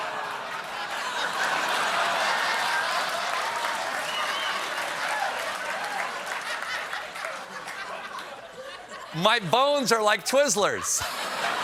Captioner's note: laughter